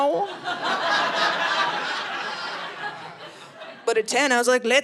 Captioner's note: audience laughing